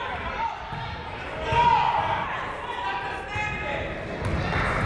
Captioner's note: people shouting in the crowd